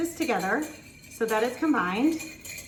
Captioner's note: whisk clicking